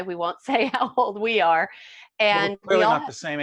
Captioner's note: laughing